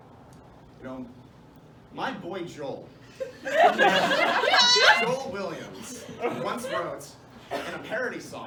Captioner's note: laughter